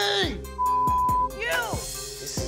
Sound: beep

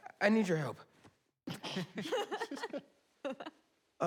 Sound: students laughing

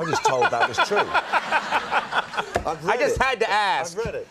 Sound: Conan laughing

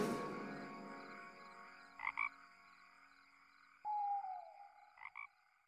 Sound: cricket chirps and frog croaks

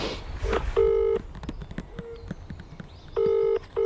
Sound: phone rings

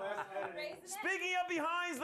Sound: laughter

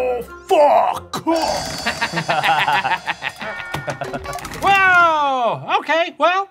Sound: laughing

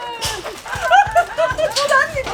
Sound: laughter

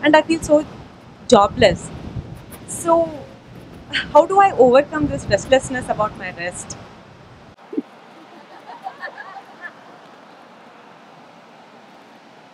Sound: laughter

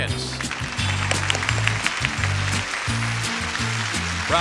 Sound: audience claps

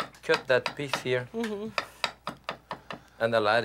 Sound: knife chopping

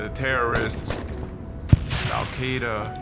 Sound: gunshots booming

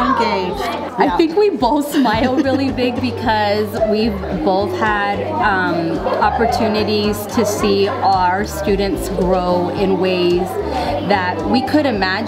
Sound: laughs

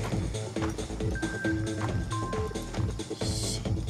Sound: phone beeps

